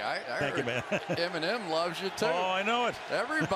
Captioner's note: laughs